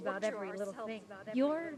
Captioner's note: echoes